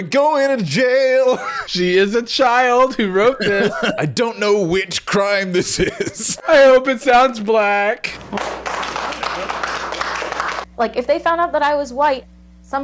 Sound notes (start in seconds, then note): 3.6 laughing; 8.1 applauding